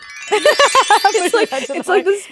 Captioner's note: magical music; both laughing